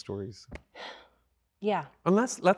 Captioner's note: sighs